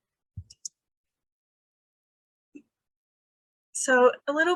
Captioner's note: mouse button clicking